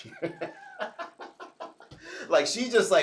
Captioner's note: laughs